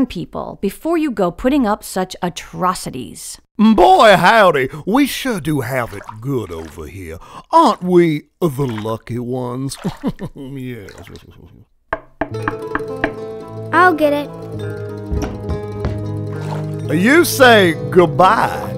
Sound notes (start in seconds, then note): 9.8 Teddy laughing; 11.9 door knocking